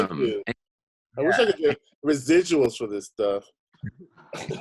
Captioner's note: laughing